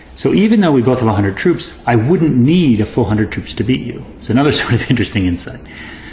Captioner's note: laugh